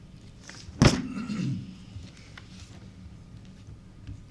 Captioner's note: man clears throat